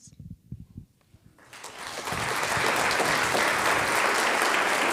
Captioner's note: audience applauding